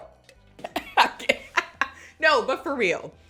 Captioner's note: laughs